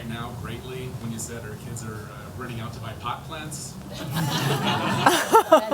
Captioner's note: laughter